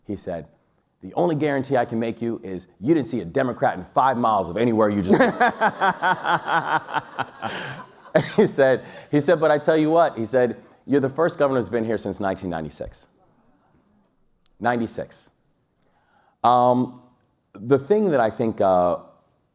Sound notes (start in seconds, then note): 5.1 everyone laughs; 8.3 laughs